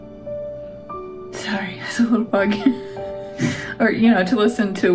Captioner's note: laugh